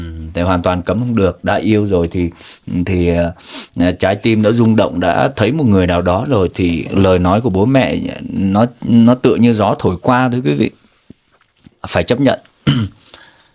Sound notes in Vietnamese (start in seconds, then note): 3.4 khịt mũi; 12.6 hắng giọng